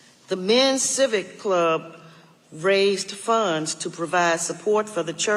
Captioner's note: none